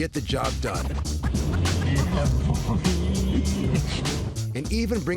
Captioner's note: humming